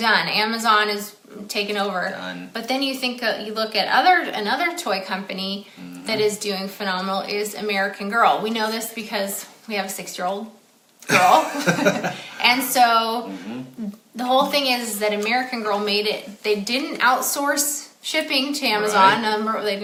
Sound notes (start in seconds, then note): 11.1 both chuckling